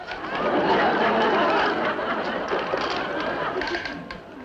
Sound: crowd laughs

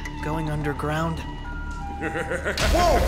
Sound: evil laughter

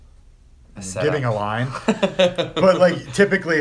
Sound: laughs

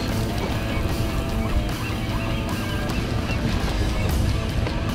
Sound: seagulls honking

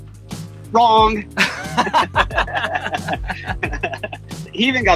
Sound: laughs

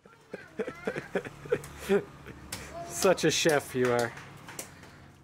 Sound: laughing

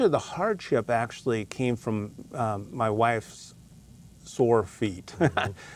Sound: chuckles

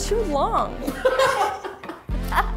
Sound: laughing

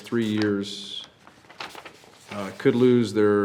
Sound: paper crackling

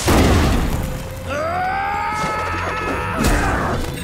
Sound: grunting

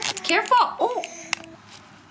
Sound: chuckles; click; rocks rustles

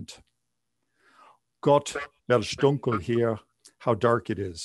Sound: speaking german

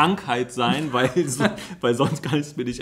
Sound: laughs

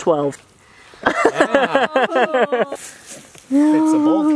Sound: laughter

